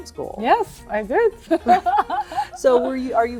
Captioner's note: laughing